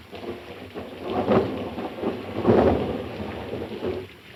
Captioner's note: thunder rumbling